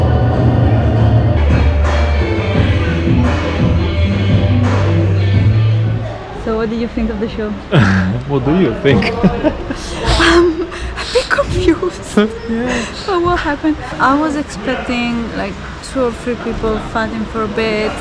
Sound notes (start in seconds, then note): 8.7 laughing